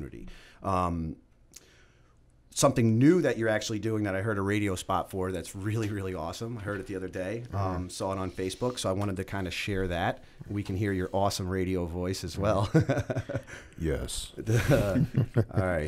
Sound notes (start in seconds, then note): 13.0 chuckle